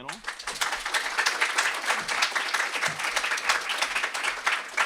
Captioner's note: applause